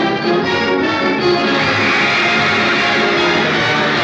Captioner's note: upbeat fight song theme playing; crowd cheering